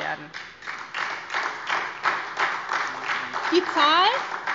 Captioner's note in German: Beifall SPD